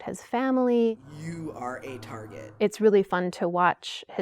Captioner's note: voiceover